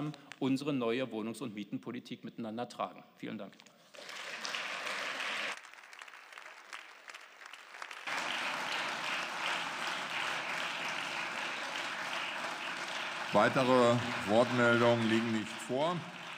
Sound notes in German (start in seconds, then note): 3.9 Beifall